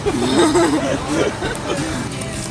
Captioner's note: laughing